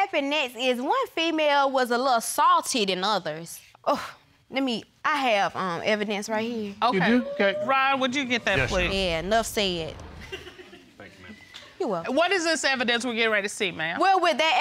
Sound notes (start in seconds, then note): 10.0 audience chuckling